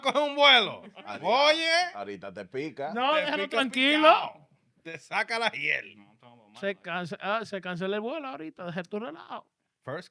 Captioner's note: speaking In Foreign Language